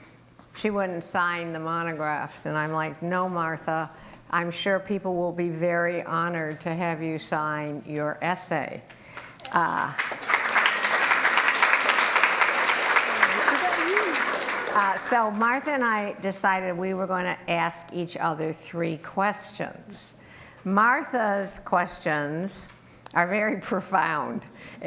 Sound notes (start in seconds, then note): 9.1 applause